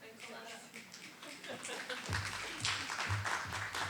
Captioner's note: applause